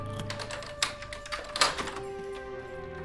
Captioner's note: lock clicking